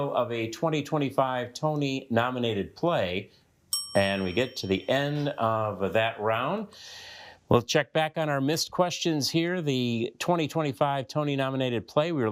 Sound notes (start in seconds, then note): 3.7 bell dings